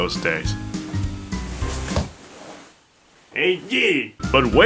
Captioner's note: sounds of falling to his death